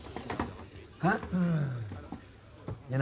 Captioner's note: clears throat